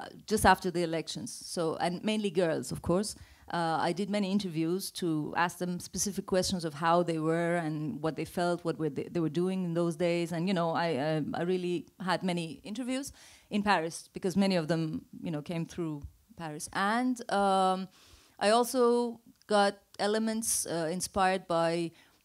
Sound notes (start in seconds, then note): none